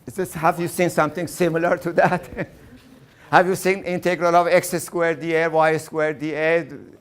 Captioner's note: laughing